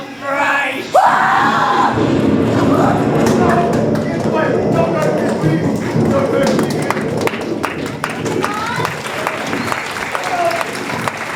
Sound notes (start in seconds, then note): 0.9 scream; 1.0 thunder